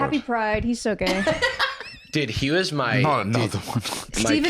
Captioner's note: laughs